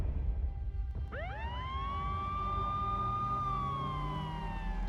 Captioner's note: siren wailing